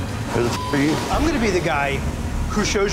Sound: beeping

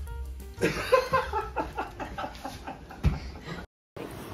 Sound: laughing

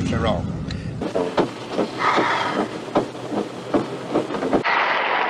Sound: sigh; applause

